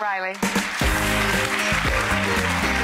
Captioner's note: audience applauding; funky music